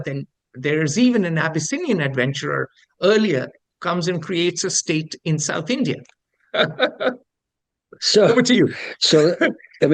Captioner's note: laughs